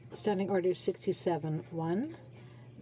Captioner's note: speaking French